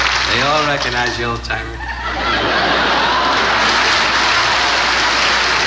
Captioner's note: audience laughing